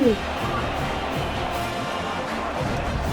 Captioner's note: crowd Noises